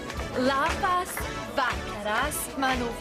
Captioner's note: speaking lithuanian